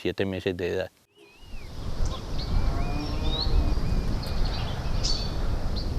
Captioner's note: nature sounds